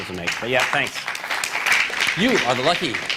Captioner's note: applause